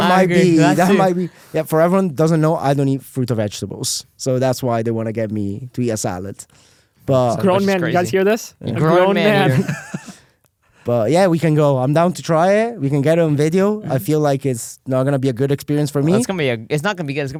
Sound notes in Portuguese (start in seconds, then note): 9.2 risos